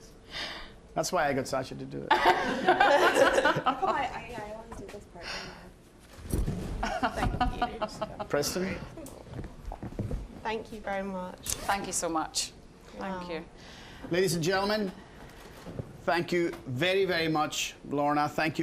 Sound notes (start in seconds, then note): 2.1 all laughing